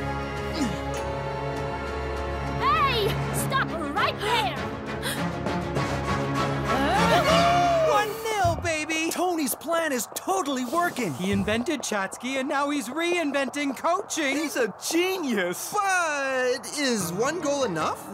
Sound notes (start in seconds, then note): 5.0 gasping